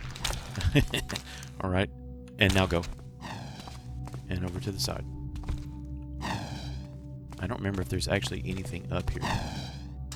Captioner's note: laughs